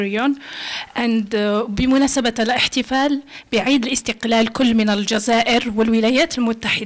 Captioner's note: speaking Arabic